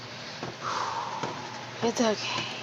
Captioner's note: exhales